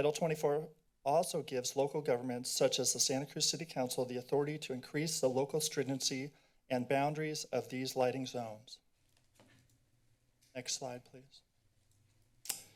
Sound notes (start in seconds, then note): none